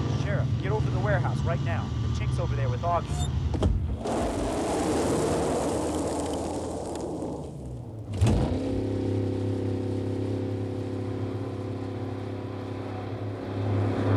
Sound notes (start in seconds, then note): 3.9 gravel crunching; 8.2 car engine revving